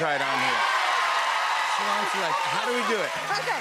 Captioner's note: cheers and applause